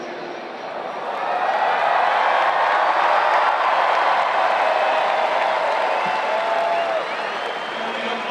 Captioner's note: applause